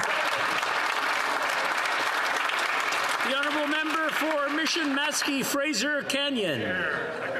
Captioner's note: applause